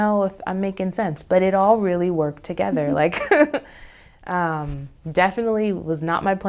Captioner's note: laughs